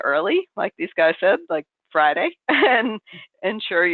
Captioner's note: laughs